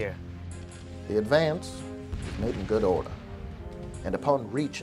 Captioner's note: voiceover